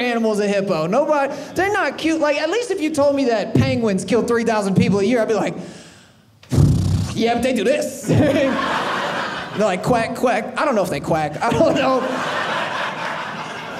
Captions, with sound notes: is a hippo. They're not cute. Like, at least if you told me that penguins kill 3,000 people a year, I'd be like yep, they do this. (audience laughing) They're like quack, quack. I don't know if they quack. I don't know. (audience laughing)